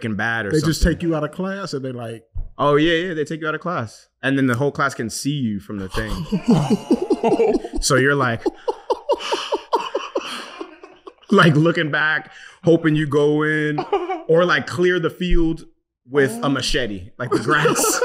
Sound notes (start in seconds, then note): 5.9 laughing; 9.1 pants